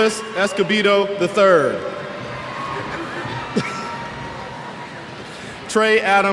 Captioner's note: cheers